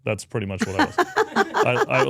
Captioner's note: speaker laughs